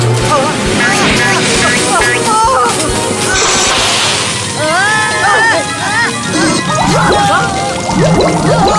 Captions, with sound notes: - Ah ah! (bouncing) - Ah!! - Oh, Ah! Oh Ah!